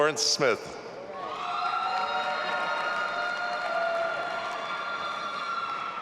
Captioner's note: audience applauding and cheering